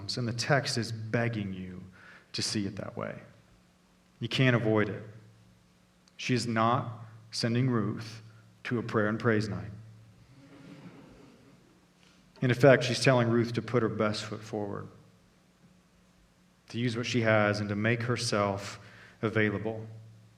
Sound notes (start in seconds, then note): 10.3 congregation chuckling